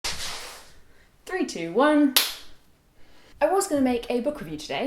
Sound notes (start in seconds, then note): 0.0 sliding sound; 2.1 clap